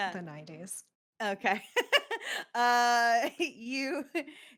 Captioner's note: laughs